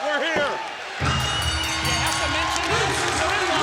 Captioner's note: bell rings